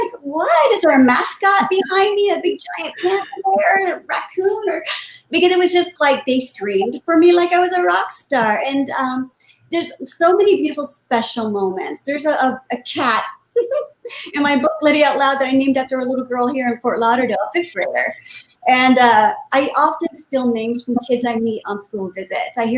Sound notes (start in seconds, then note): 12.9 muffled laugh